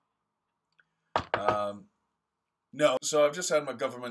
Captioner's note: knocking